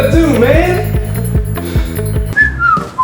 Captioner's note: breathing; whistling